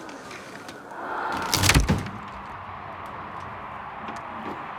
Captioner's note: crunch; crowds cheer on tv